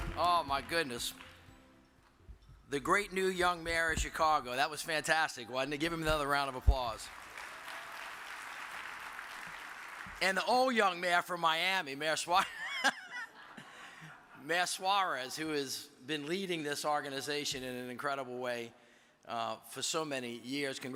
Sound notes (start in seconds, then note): 6.8 audience applauds; 13.8 laughs